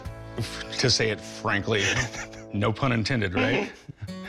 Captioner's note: chuckles